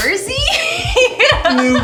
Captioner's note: laughing